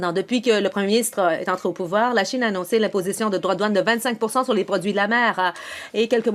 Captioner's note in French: voix de l'interprète